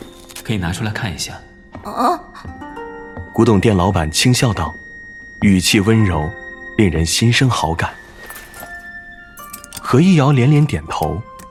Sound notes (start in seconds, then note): 9.3 keys jingling as the shopkeeper unlocks the cabinet